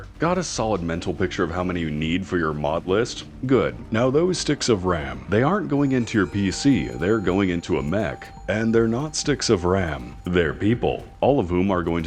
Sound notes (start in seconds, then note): none